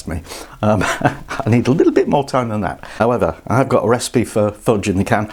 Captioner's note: laughs